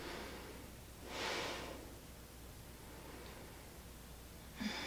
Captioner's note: deep breathing